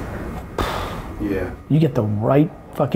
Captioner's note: Vayne sighs